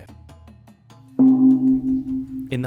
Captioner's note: gong sounds